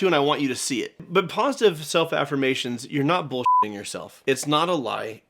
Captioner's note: beeping